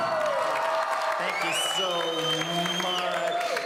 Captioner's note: audience cheering